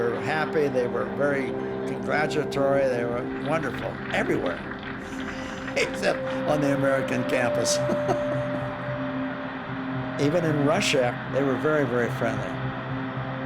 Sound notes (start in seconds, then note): 7.4 chuckling